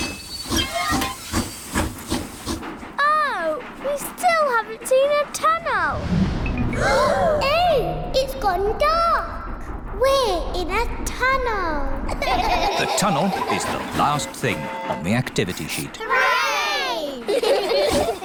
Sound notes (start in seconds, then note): 0.0 train chugs; 6.7 all gasp; 12.1 all laugh; 17.0 laugh